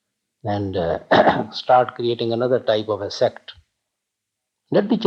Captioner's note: clearing throat